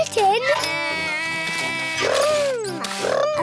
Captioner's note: edmond elephant makes beeping sounds